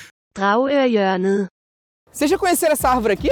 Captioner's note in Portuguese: voz do google tradutor